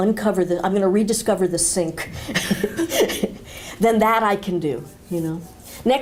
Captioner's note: chuckle